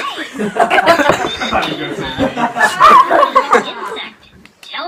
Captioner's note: laughter